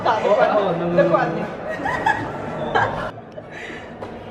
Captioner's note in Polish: śmiech